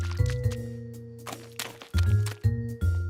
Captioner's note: footsteps